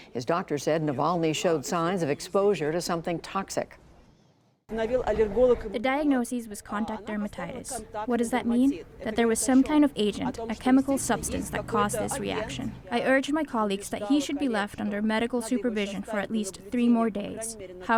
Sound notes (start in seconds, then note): 5.2 through translator